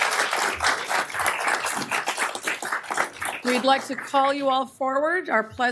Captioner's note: applause